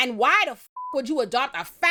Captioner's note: beep